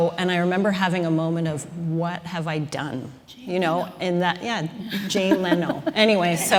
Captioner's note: laughter